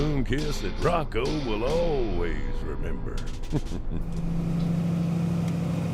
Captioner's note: laughing